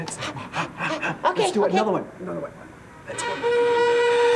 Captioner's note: breathes